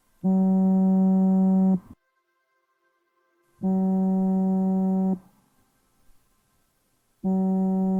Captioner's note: phone vibrates